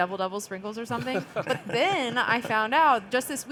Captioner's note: panelists laughing